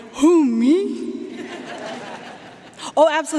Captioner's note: audience laughing